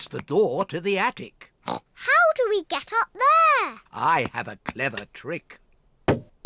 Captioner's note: knocks